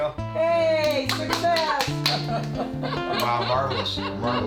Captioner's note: laughter